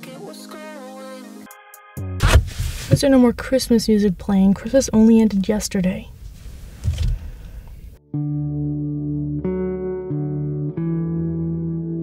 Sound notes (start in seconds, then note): 0.0 singing; 8.0 sighing